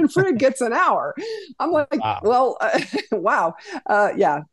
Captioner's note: laughs